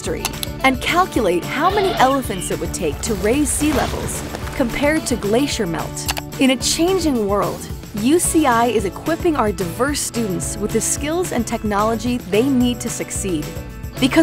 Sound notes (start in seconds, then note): 0.2 click; 6.0 click